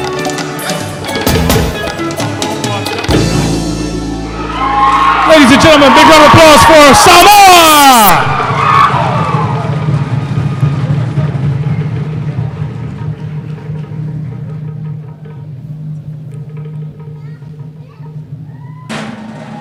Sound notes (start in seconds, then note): 8.4 cheering; 16.4 drums playing